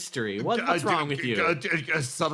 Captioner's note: Yaiyo noises